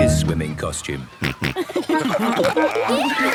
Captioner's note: snorting, giggling